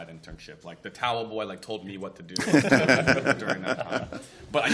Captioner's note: laughter